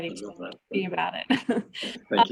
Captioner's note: chuckles